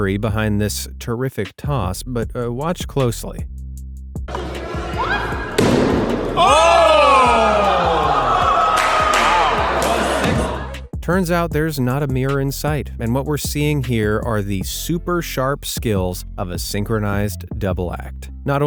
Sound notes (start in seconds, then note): 5.5 axe thuds; 7.4 group cheering